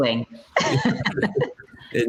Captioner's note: laughter